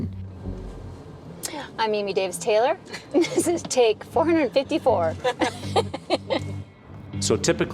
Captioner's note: laughs